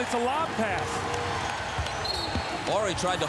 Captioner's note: whistle blows